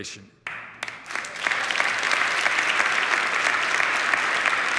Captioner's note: crowd applauding